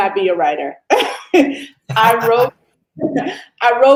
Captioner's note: laughs